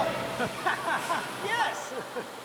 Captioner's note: laugh